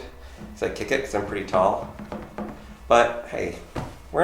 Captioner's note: feet tapping